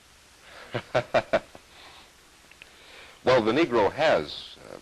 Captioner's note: laughter